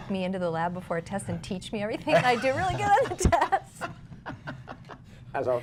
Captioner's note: laughter